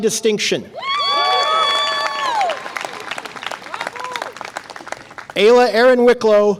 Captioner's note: audience applause and cheer